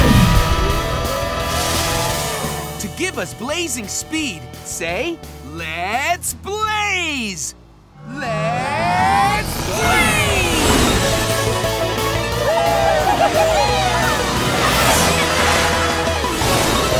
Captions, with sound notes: To give us Blazing Speed, say "Let's Blaze!" -Let's Blaze! -Let's Blaze! [all cheering]